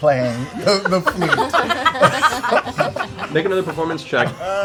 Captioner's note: laughter